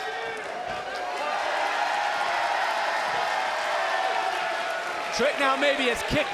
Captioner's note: applause